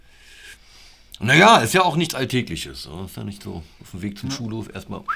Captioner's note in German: Lachen